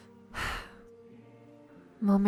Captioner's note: sighs